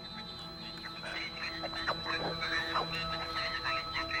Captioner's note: comm device garbling